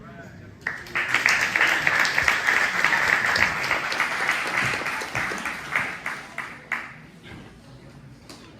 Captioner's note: applause